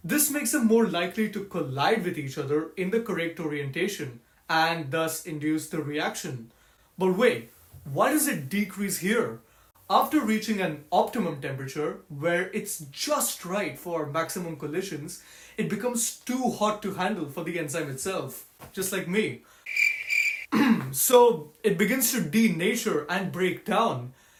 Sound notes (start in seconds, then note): 19.6 crickets; 20.5 clears throat